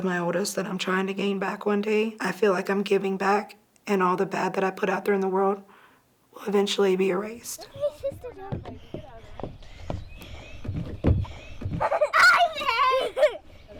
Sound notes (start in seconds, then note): 7.7 feet thumping; 10.1 children laughing